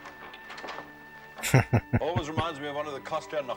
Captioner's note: chuckling